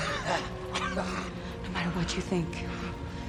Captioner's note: laughing